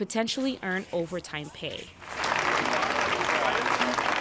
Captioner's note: crowd clapping